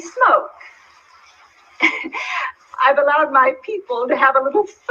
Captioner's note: laughter